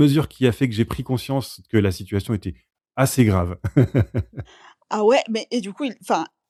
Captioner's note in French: rires